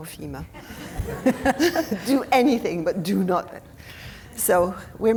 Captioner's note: audience laughing; laughing